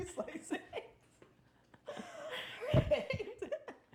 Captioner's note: laughing